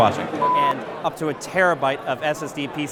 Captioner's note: beeping